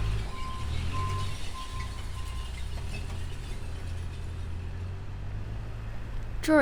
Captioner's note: engines running